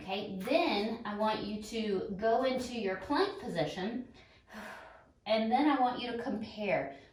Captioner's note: exhales